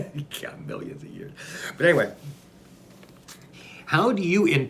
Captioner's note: laughs